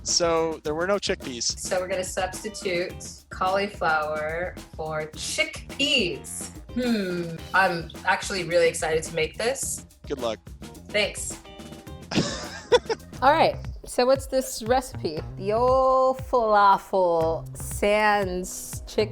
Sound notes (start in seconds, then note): 12.1 laughing